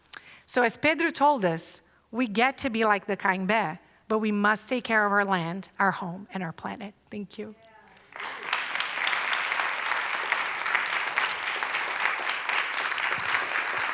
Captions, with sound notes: So, as Pedro told us, we get to be like the [non-english speech], but we must take care of our land, our home, and our planet. Thank you. [applause]